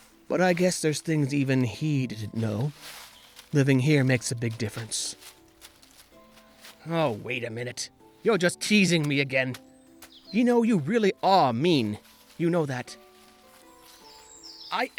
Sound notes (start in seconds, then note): none